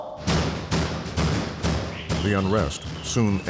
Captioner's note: banging